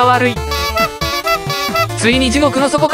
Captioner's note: trumpet sound effect